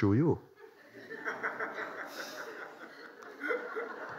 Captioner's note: laughter